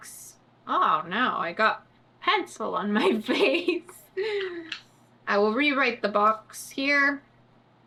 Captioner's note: laughs